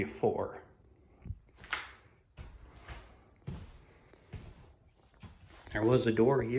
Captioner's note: footsteps